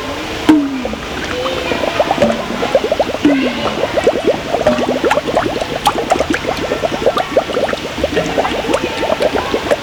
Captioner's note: popping sounds, children yelling; bubbling sound; popping and yelling continues; bubbling and running water continues